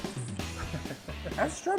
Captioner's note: lively rock music; laughing